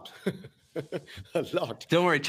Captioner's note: laughs